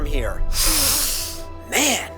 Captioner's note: sniffs deeply